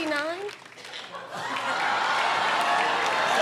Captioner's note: laughter; cheers and applause